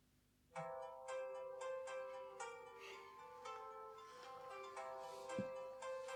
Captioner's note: phone starts ringing